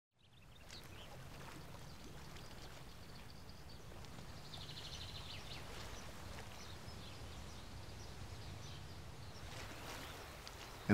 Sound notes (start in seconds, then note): 0.2 birds chirping; 0.5 waves splashing